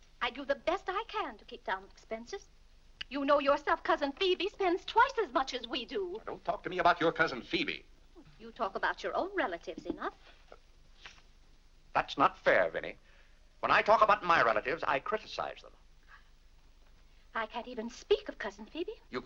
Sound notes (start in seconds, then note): none